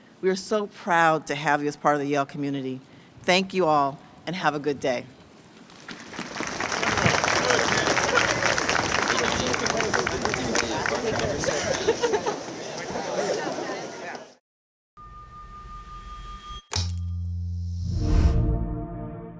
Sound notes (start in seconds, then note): 5.8 audience applauds; 10.6 audience murmurs; 16.7 light music